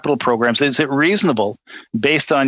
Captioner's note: speaking French